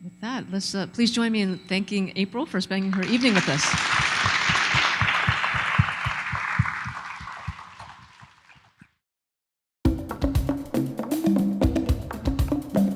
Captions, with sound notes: - With that, please join me in thanking April for spending her evening with us. (audience applauding) (calm music)